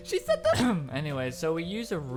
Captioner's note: cough